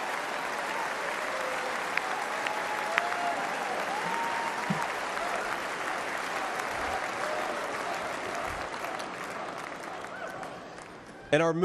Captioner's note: cheers and applause